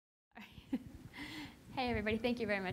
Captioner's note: laughs